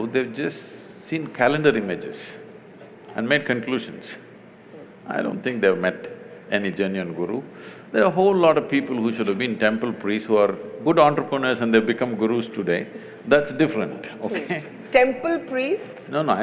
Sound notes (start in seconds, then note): 14.2 laughs